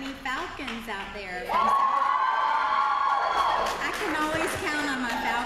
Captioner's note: applause